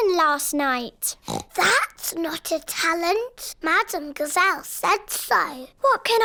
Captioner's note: oinks